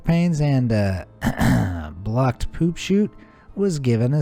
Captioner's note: clears throat